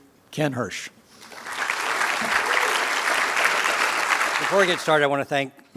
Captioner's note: applause